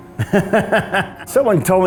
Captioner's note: laughter